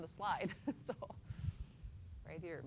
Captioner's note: chuckles